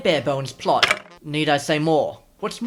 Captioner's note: bone rattle